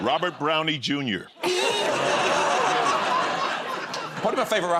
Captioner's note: laughter